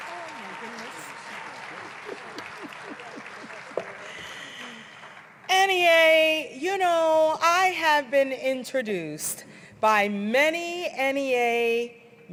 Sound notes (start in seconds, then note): 2.5 applause